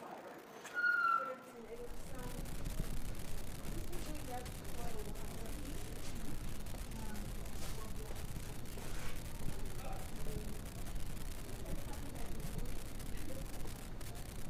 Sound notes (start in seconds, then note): 1.8 visitors chattering indistinctly